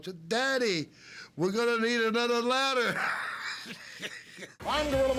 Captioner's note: laugh